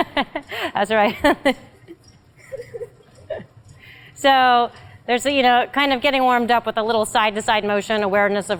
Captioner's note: laugh